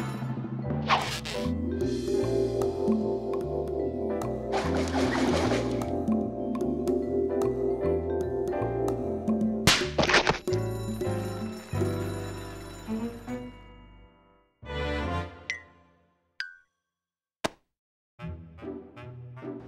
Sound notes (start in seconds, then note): 10.6 bell rings